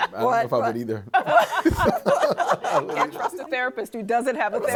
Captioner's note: laughs